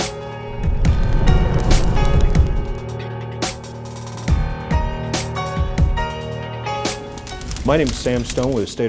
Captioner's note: intro Music; fire Burning Sound